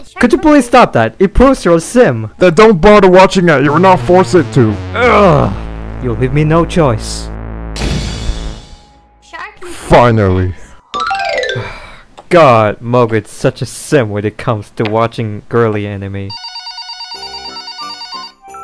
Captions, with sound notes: Could you please stop that?! it proves you're simp! Then don't bother watching it you're not forced to! Grrrr...! you leave me no choice. (Door Slam) Finally... *Sigh* god... Mogan is such a simp when it comes to watching girly anime. (Phone Ringing)